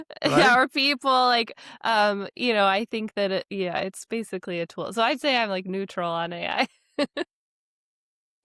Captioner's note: laughs